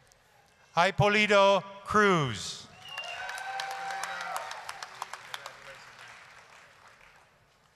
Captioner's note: applause, cheering